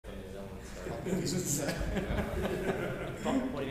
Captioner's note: group laughs